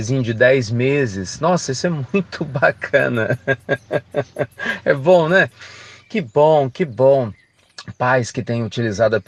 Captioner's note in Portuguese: Risos